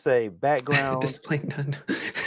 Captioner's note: chuckles; chuckling